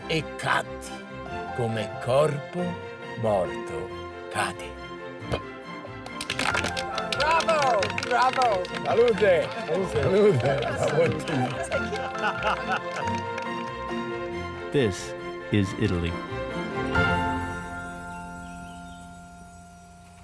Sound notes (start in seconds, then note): 6.3 cheers and applause